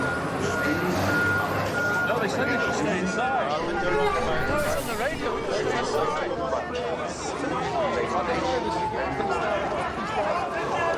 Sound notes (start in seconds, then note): 0.1 backup signal beeps; 7.3 distant siren wailing